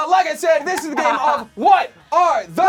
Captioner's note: laughing